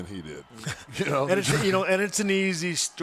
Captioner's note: laugh